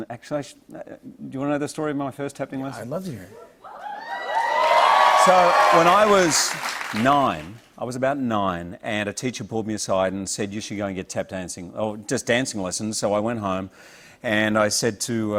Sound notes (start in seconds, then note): 3.6 cheers and applause